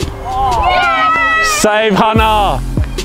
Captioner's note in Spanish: vítores de la multitud